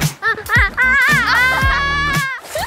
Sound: giggling

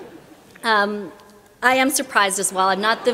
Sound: laughter

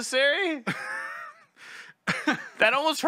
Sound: uncomfortable laughter

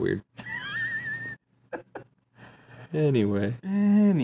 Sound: laughs

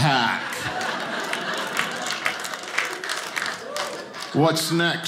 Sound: audience laughing

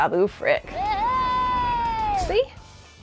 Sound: babu yelling

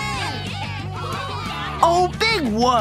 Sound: cheering

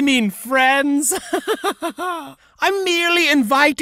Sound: laughs

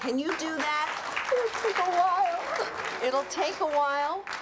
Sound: sobs; applause

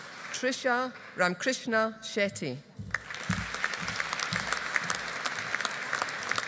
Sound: audience applauding

